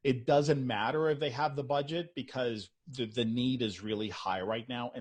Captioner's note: none